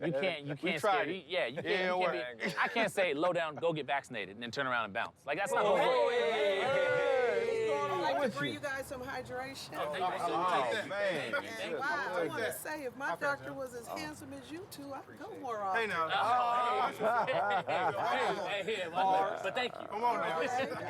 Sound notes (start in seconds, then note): 16.7 laughter